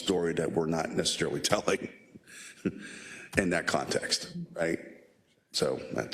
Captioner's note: laugh